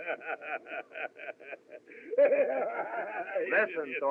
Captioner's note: Flack Laughing